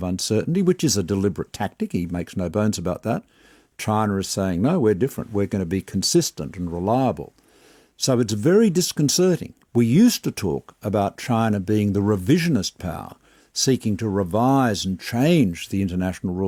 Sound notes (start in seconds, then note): none